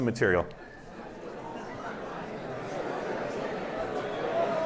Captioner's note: indistinct chatter